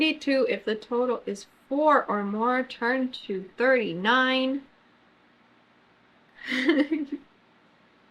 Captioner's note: laughs